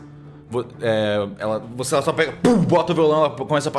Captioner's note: thump